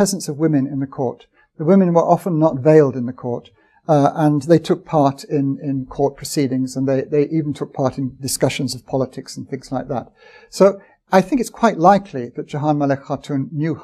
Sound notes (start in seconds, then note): none